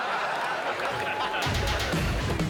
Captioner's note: loud banging and shouting